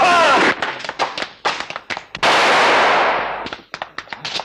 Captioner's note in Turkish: Silah sesleri